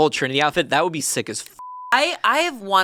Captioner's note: beep